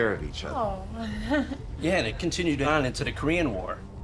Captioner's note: laughs